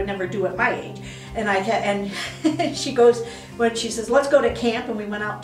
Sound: laughing

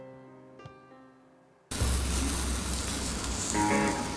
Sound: slithers

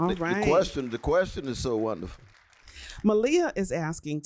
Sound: applause

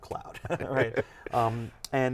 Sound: laughs

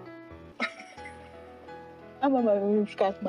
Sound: laughs

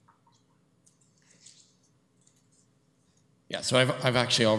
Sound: whispering

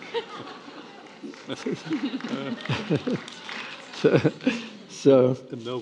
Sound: attendees applauding

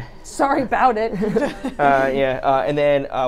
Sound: chuckles

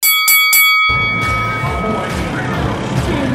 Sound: bell ringing

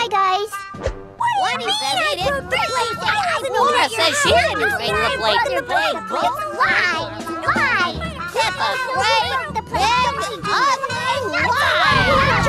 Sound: arguing

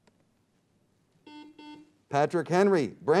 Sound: buzzer beeps

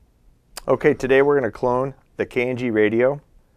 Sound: voiceover

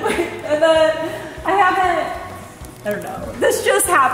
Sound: both laughing

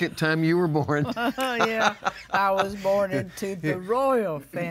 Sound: laughs

